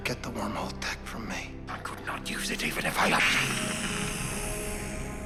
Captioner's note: hisses